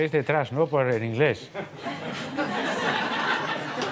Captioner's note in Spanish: Risas